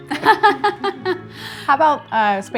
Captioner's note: laughs